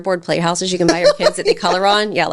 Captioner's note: laughing